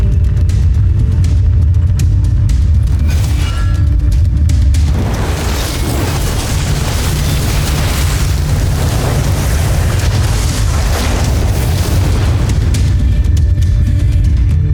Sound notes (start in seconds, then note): 2.9 sword whoosh; 4.8 infernal whoosh-crackle; 13.0 music fades; 14.3 molten surge rumbles; 14.3 mystical music playing